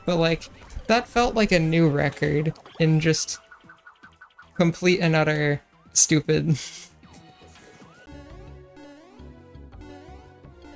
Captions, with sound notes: but, like... but, like... That felt like a new record, in just... That felt like a new record, in just... complete and utter... complete and utter... stupid [giggle] stupid [giggle]